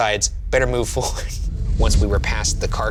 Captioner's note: chuckling